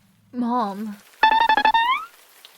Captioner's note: not sure why this is here but funky sound